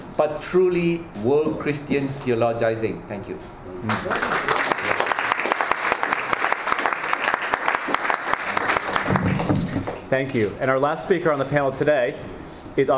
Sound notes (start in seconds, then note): 3.8 all applauding